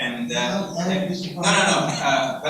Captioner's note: speaks away from mic